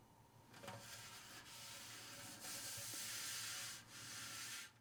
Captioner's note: soft clay scraping